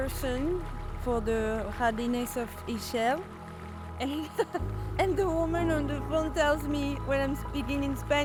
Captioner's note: laughter